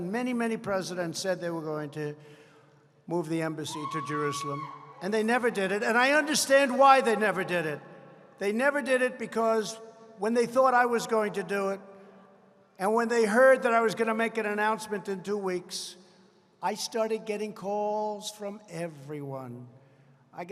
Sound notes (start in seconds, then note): none